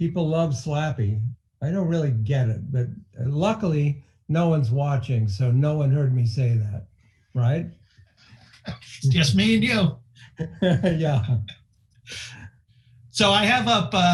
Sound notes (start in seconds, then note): 10.2 laughing